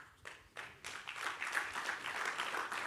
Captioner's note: audience applause